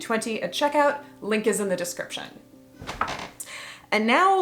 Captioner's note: antique bedframe creaks as flops on it